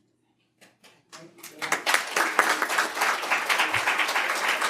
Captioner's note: audience clapping